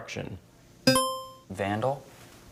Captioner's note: buzzer chimes